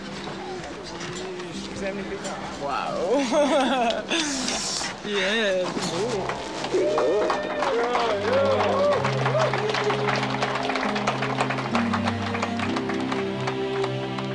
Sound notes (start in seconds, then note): 3.0 laughing; 5.9 crowd clapping; 6.3 inspirational music